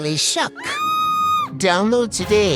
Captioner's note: skeleton screaming